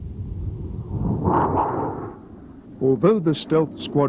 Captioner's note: jet engine roaring